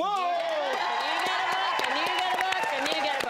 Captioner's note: applause